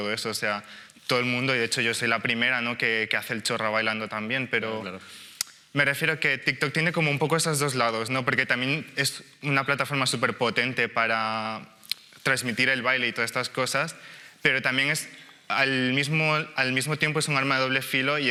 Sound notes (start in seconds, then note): none